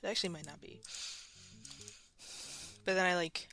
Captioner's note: mouse Clicking and Breathing